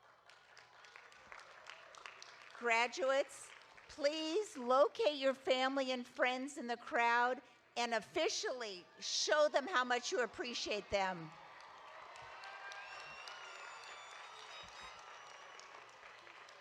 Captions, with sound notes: (audience applauding) Graduates, please locate your family and friends in the crowd and officially show them how much you appreciate them. (audience applauding)